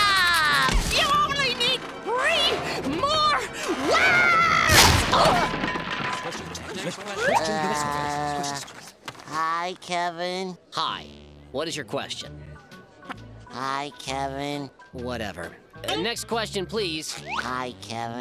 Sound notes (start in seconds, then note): 4.7 grunting